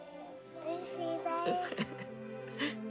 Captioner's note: laughs